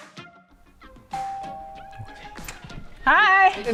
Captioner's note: upbeat music; doorbell rings